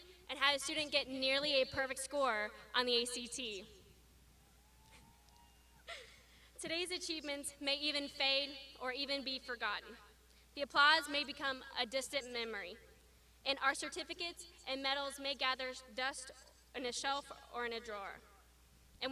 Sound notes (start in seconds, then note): 5.2 graduands shouting; 5.8 laughs